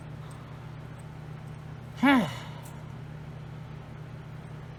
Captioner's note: Frustrated sigh from Caprice